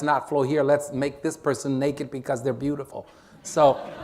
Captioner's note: laughter